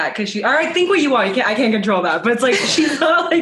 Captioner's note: laughs